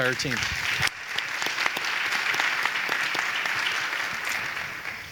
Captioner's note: people applauding